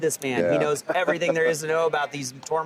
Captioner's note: laughs